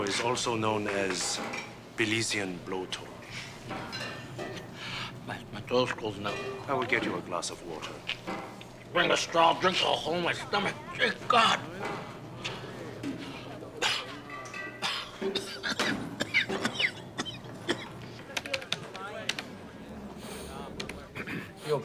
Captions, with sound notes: The habañero is also known as "Belizian Blowtorch." My, my throat's closing up. I will get you a glass of water. Bring a straw, I'll drink through the hole in my stomach. Dear God! (coughing) (sniffing)